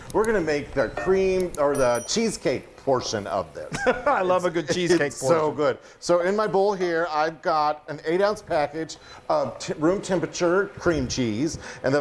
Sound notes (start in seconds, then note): 3.7 laughing